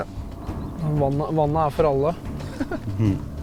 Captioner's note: giggle